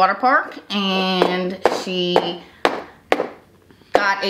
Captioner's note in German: Becher tippt auf den Tisch